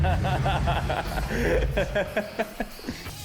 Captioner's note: laughs